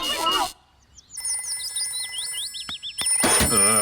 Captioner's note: phone rings